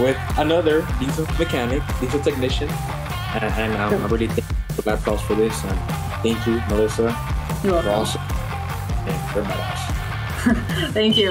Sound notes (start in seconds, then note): 4.3 audio breaks; 10.3 chuckles